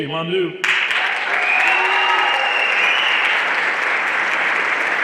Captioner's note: everyone applauding